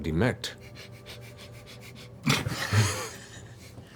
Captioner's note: heavy, repeated sniffing